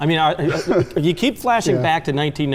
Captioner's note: laughs